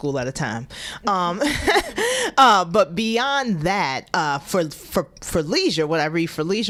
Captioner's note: laughter